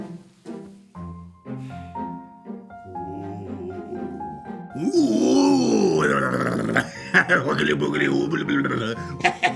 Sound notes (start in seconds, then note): 2.9 groaning and laughing